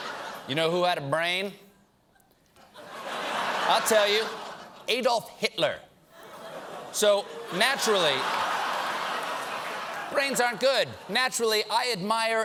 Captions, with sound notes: YOU KNOW WHO HAD A BRAIN? (LAUGHTER) I'LL TELL YOU. ADOLPH HITLER. SO, NATURALLY, BRAINS AREN'T GOOD.